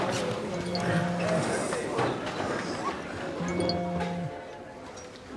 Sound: mobile notifications

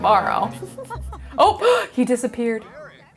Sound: gasps

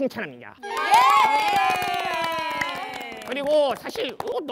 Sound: A round of applause for each other

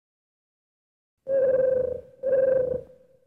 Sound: tribble cooing

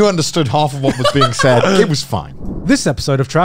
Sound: laughing

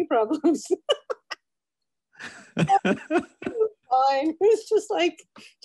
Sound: laughs

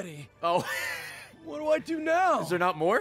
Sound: laughs

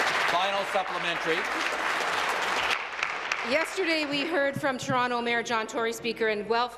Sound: applause

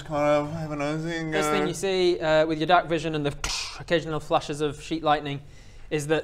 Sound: tssch

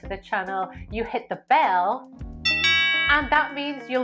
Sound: bell rings

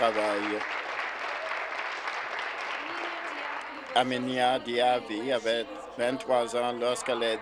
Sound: applause

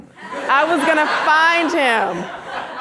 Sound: audience laughing

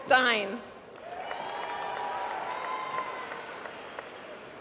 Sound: applause

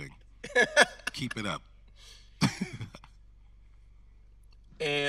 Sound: laughing

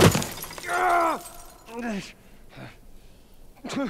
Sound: Joel screams in pain and whimpers

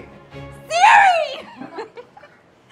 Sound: laughs

